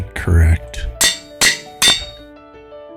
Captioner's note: clanging